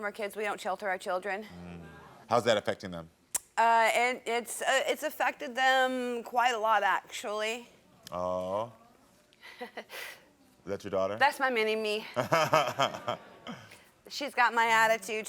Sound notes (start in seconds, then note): 9.5 laughing; 12.2 Karamo laughing